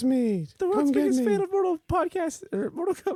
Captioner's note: high voice